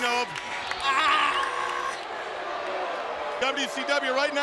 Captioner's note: Mysterio groaning